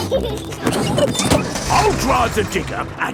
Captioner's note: peppa and george laughing